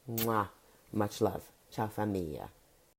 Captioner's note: blowing kiss